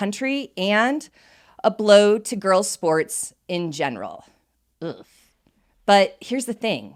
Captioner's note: disgusted groan